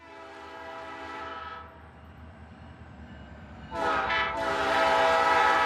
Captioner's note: train horn blowing